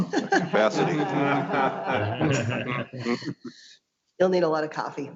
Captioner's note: board members laughing